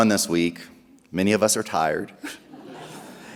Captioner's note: chuckles